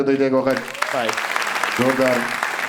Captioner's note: crowd applauding